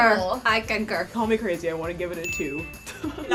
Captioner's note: laughs